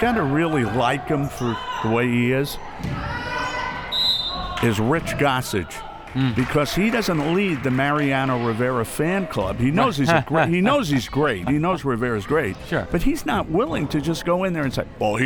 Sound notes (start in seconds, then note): 3.9 whistle; 9.8 laughs